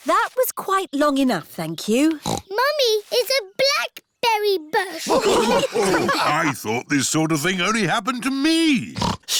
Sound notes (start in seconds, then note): 2.1 snorts; 4.9 all laughing